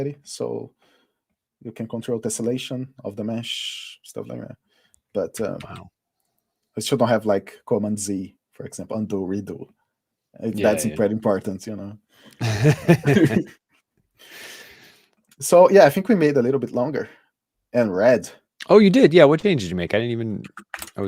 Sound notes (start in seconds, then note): 12.4 laughter